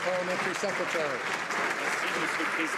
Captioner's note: some Applause